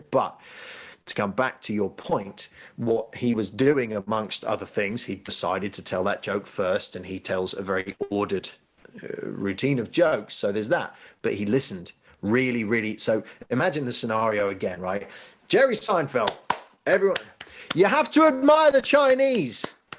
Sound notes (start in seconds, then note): 16.2 hands clapping